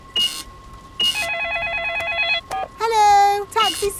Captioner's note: cash register beeping; cellphone ringing; beeps